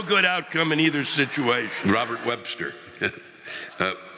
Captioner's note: audience laughing